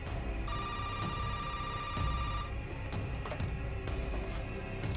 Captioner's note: phone ringing